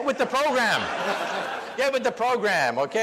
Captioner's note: audience laughs